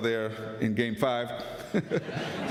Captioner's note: laughter